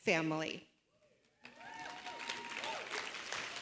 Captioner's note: cheering, applause